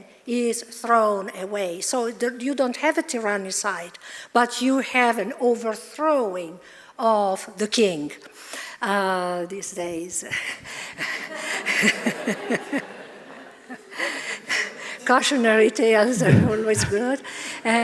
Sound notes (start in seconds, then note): 11.0 chuckling; 11.0 audience laughing